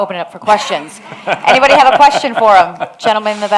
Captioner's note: both laugh